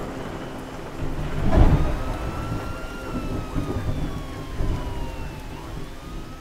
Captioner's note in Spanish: sirena policia